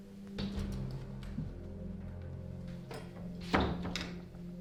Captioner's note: door closing